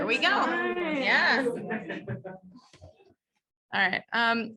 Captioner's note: indistinct background chatter